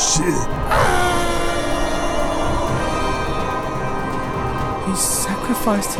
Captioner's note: screaming